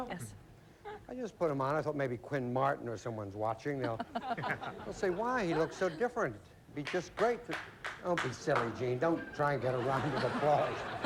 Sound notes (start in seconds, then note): 7.1 clapping